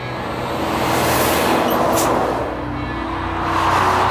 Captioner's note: truck noise